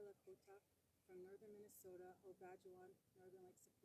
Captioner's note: speaks indigenous language